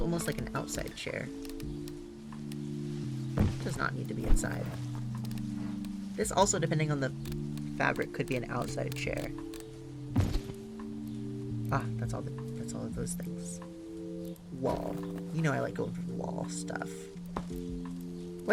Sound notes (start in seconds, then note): none